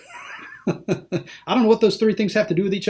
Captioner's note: laughing